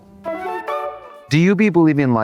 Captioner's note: bright chime